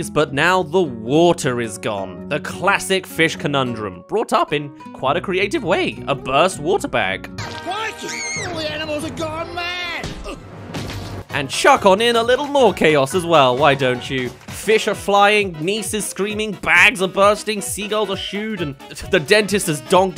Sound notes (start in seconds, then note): 10.0 donk